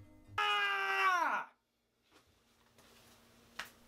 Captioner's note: exclaims